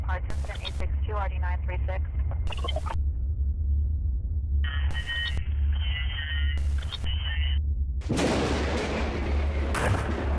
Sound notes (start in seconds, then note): 1.5 static; 8.0 sudden crash of thunder